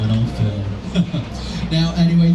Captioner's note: lauging